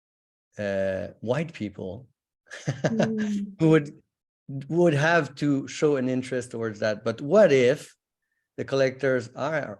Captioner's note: chuckles